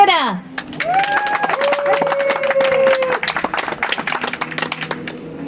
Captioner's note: audience applauds